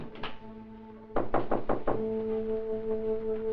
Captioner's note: knock at door